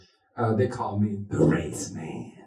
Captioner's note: in a deep voice